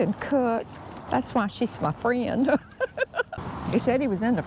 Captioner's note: laughing